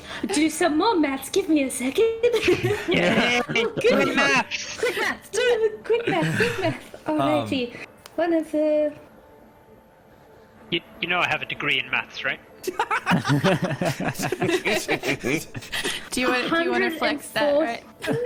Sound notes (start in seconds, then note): 8.5 maths muttering; 12.6 laughter; 18.0 laughs